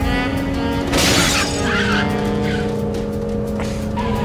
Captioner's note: car crashing